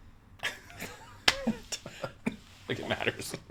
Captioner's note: laughs